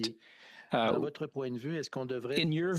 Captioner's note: speaking French